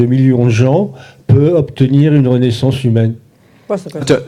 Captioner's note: speaking in French